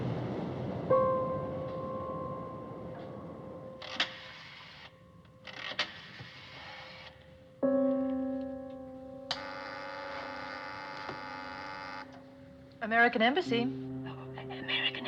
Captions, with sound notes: [Buzzing] American Embassy.